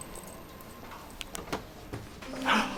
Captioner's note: door opens